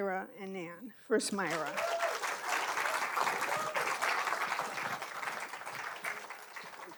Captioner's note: audience applauding; audience whooping